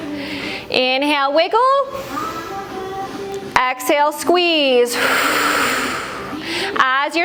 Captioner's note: breath